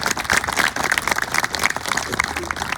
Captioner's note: applause